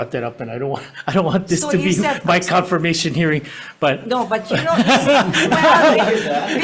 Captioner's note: laughs